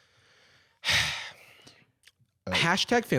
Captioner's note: sighs